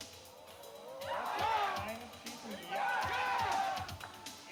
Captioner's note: crowd cheering